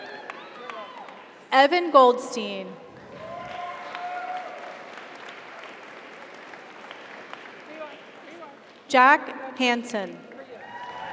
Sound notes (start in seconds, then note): 3.0 audience cheers; 3.0 audience applauds